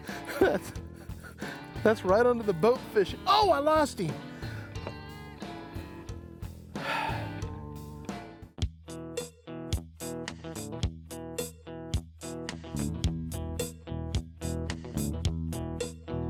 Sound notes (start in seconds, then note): 6.8 sigh; 11.0 laid-back guitar music